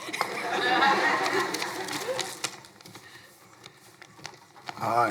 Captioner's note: crowd laughing